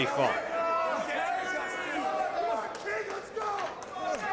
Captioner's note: crowd yells